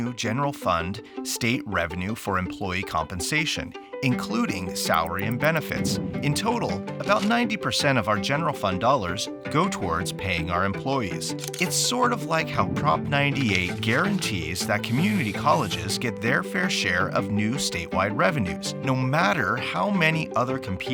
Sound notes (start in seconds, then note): 11.3 camera shutter; 14.9 highlighter pen on paper